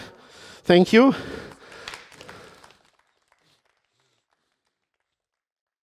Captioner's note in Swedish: Audience applause